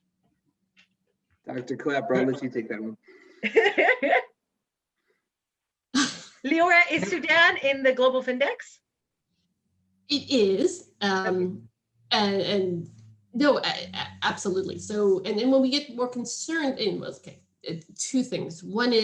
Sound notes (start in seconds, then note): 3.4 laughter